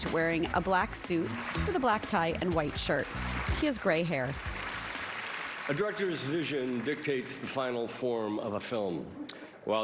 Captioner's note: applause